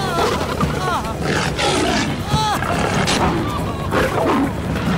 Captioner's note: Screaming, Grunting